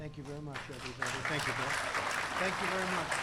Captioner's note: applause